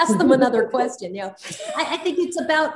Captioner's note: all laughing